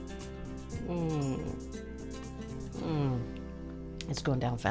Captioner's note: grunting; glasses clinking